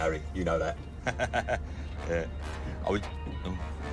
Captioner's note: laughs